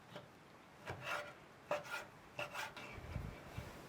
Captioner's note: knife slicing